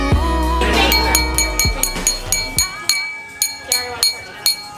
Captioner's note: glass ringing